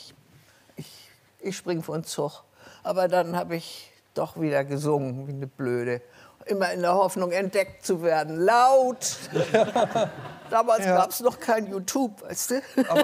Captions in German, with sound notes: Ich ... Ich springe vorn Zug. Aber dann habe ich doch wieder gesungen, wie eine Blöde. Immer in der Hoffnung, entdeckt zu werden. Laut! (Lachen) Damals gab es noch kein YouTube, weißt du.